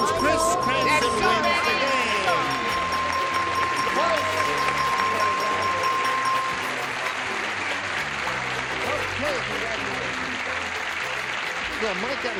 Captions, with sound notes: -Okay, so that means Chris Cranson wins the game. (ding) (applause) -Chris, okay, congratulations.